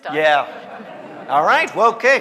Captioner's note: audience laughing